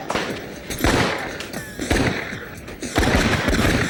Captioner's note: gunshots fire